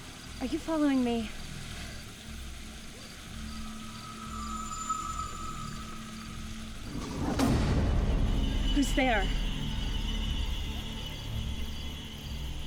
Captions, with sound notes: ARE YOU FOLLOWING ME? [growl] WHO'S THERE?